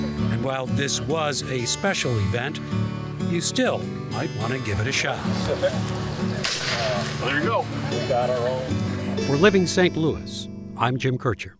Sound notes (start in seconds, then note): 6.4 gun bangs; 8.4 soft music